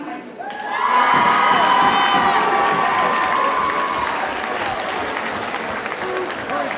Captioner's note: audience cheers and applauds; audience chatter